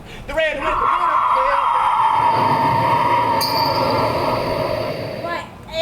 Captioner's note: wind howls ominously